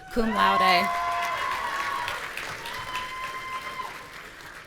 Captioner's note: audience cheering